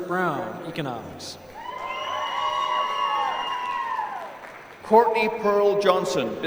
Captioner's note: applause